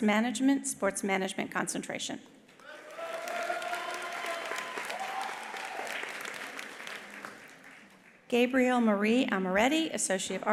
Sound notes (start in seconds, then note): 2.6 attendees applauding; 2.6 attendees cheering